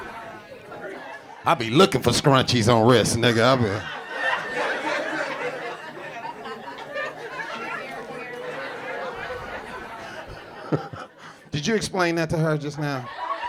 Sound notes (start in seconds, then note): 4.5 audience laughing; 10.7 chuckles